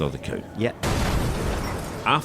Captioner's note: crash!